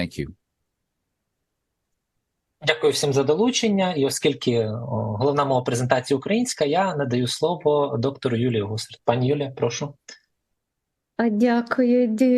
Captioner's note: foreign language